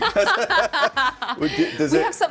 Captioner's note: laughing